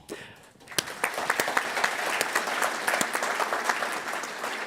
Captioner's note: audience applauds